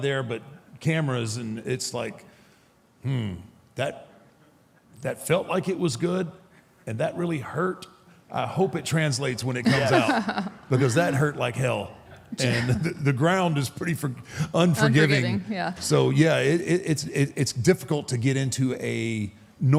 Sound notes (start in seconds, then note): 9.6 Michelle laughs